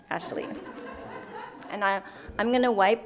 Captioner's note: participants laughing